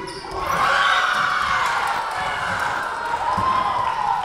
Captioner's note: Lions cheering